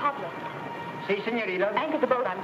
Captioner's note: speaks in foreign language